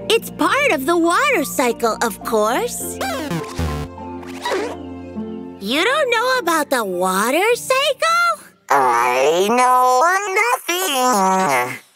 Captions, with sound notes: It's part of the water cycle, of course. [beeps] You don't know about the water cycle? I know nothing!